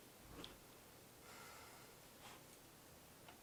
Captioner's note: exhales deeply